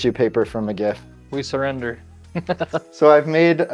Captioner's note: laughs